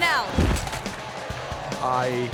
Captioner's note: thuds